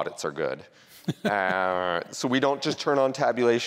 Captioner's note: laughs